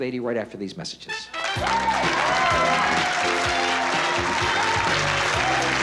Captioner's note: applause